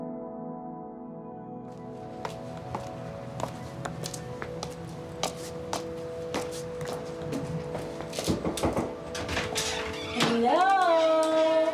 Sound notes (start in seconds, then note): 1.5 tranquil music; 4.2 footsteps tapping